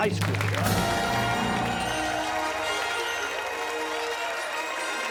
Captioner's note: cheers and applause